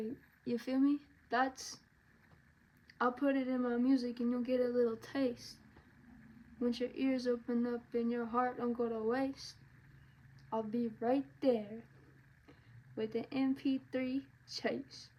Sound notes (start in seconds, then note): none